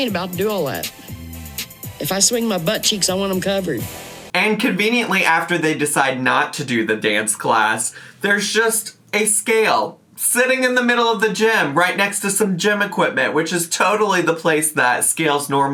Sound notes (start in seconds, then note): none